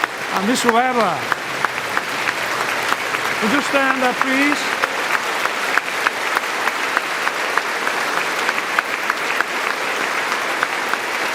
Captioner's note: applause